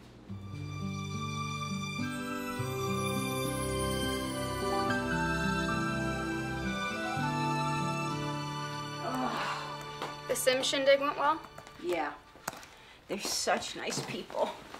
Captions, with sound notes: (dramatic music) (Susan groans) - The Simms' shindig went well? - Yeah. They're such nice people.